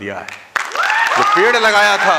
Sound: rounds of applause

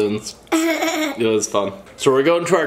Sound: laughs

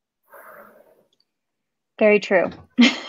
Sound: laughs

